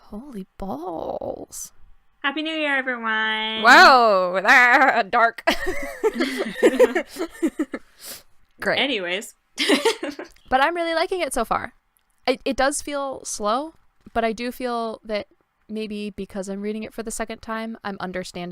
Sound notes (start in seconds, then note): 4.6 laughter